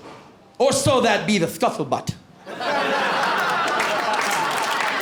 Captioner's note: lisping; laughter